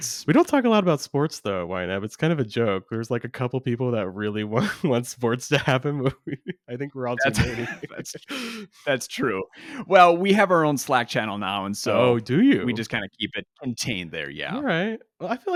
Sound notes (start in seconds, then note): 5.5 laughs